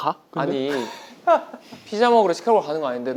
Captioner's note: laughing